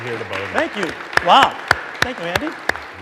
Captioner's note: audience applauding